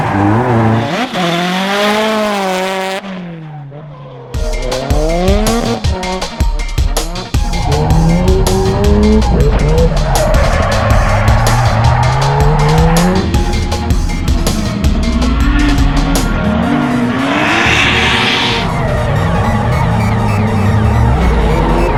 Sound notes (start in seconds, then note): 0.0 engine revs; 4.4 tires squealing; 5.6 engine revs; 10.6 tires squealing; 15.8 engine revs; 19.2 tires squealing